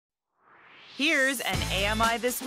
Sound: swoosh

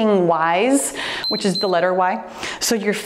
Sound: timer beeps

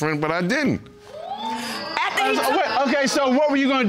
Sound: audience exclaiming

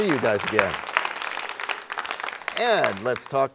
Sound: applause

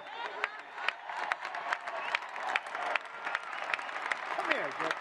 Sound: applause

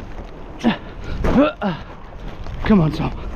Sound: groaning

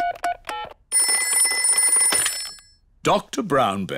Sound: ringing

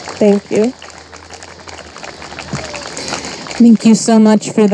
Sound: audience applauding and cheering

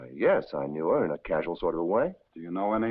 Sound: none

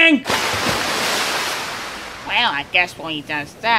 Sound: water splash

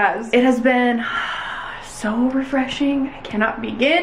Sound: sighs

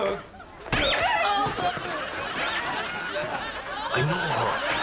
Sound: shoe squeaking

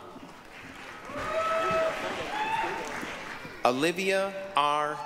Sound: applause, cheering

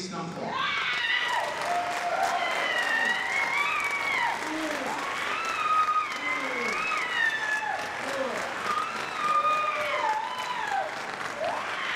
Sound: applause

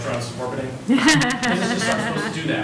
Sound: audience laughs

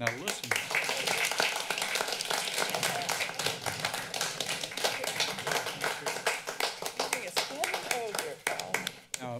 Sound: applause

